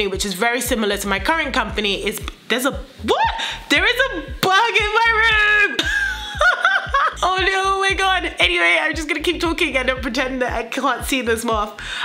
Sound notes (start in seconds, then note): 3.0 shrieks; 5.9 laughs